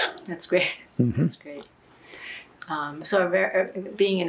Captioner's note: laughing